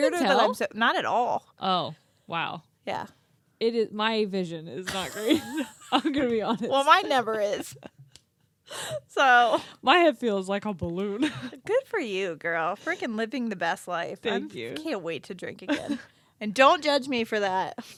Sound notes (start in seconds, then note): 4.9 both laughing; 11.3 laughs